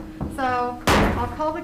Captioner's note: gavel striking